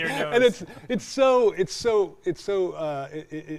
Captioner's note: both laughing